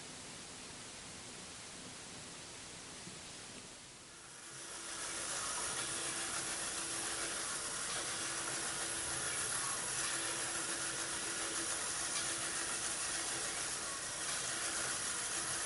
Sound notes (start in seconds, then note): 10.8 motor whirring